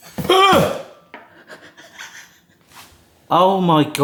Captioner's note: grunting